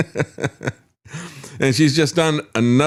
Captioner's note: laughs